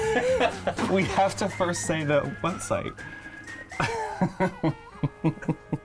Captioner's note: laughing; laughing